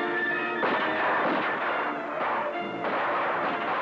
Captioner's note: guns blasting